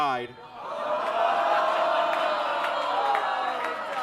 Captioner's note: audience groans